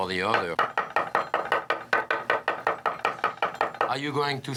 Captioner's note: chopping